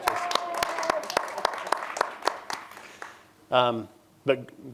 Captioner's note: applause